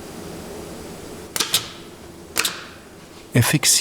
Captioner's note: click